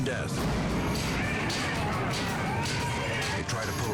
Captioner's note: tool banging